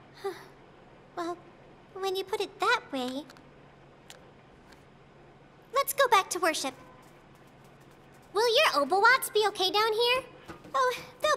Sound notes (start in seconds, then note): 1.6 sighs